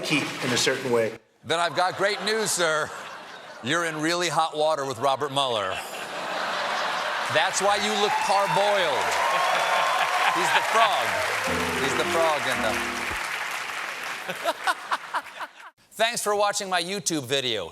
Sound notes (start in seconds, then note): 5.6 laughter; 6.4 cheers and applause; 14.2 laughter